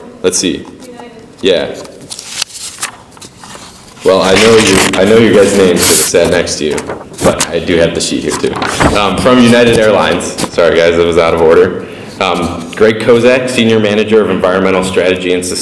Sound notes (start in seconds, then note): none